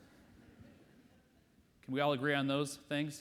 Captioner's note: audience laughs